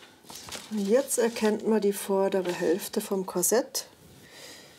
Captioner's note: none